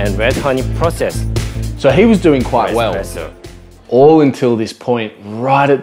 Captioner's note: none